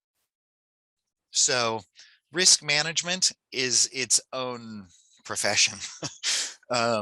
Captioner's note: laughs